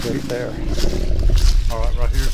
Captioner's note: grunting sound; rustling leaves